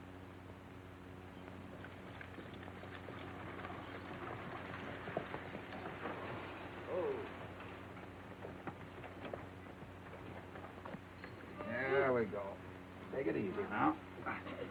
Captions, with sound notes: (horses trotting) (wagon jingling) - Ho. There we go. Take it easy now.